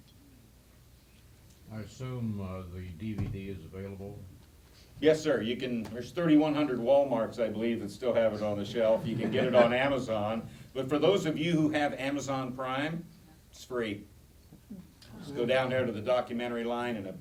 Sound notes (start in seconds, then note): 8.7 laughter; 14.2 audience chatter